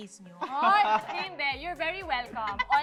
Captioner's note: laughs